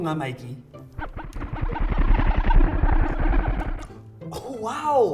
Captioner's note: MindBlower noises